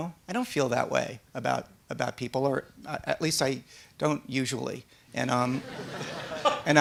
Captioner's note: laughter